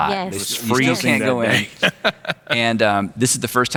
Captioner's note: laughing